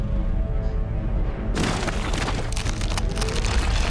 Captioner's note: thud sound